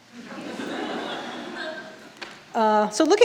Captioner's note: audience laughing